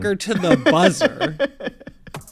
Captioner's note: laughter